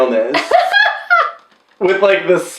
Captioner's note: laughing